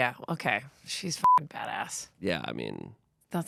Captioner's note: beep